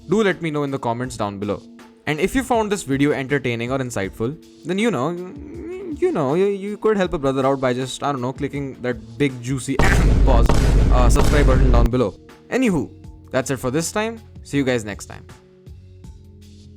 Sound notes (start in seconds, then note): 10.3 ahem